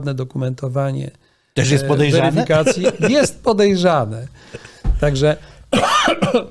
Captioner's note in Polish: śmiech